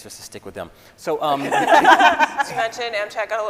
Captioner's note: scientists laughing